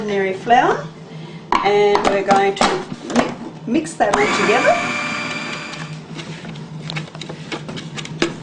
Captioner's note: blender whirring